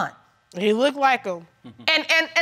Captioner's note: chuckles